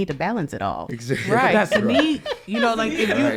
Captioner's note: laughs; all laughing